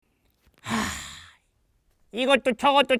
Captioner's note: deep peng-sigh